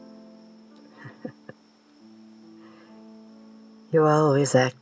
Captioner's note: chuckle